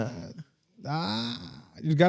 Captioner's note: laughing